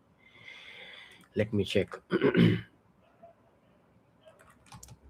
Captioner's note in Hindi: गला साफ़ करने की आवाज़